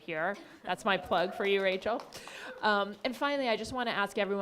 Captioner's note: claps